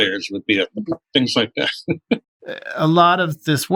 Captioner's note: laughter